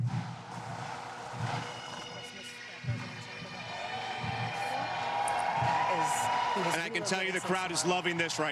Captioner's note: cheers and applause